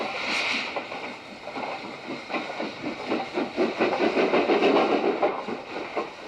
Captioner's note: train passes